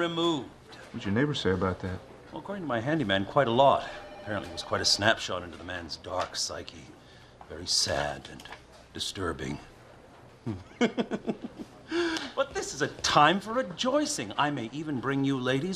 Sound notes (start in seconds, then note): 10.4 snickering